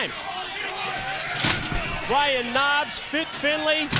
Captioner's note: crowd chatter